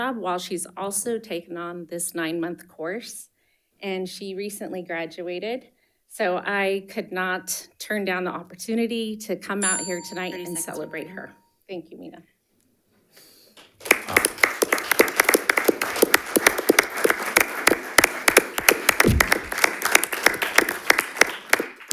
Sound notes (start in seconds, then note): 9.6 bell dinging; 13.6 audience applauding